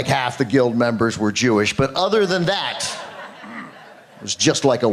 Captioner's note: laughter